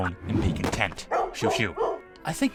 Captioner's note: dog Barking Sound